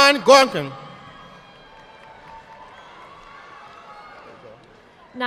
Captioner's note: audience clapping